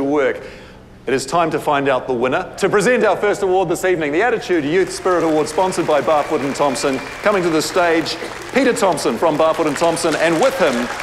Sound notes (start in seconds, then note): 8.2 applause